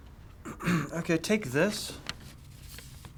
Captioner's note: Jack hiccups; clears throat